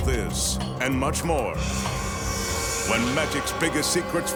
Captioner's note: logo swishing